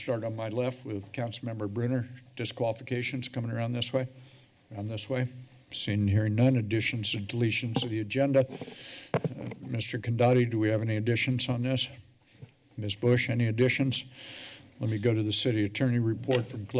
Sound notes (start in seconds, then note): 8.4 rustling sound